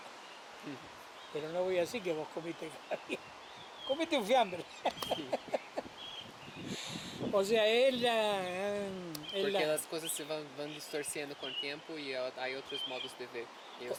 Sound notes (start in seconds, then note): 4.6 laughs